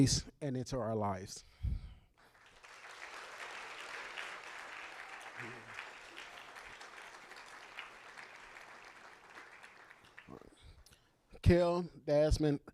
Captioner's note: applause